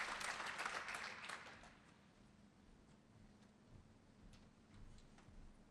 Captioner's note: applause